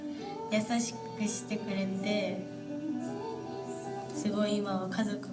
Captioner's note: speaking in foreign language